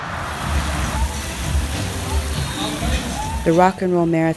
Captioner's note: water falling